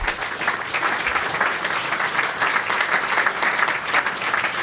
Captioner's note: applause